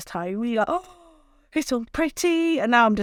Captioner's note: gasps